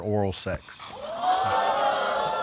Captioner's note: audience exclaims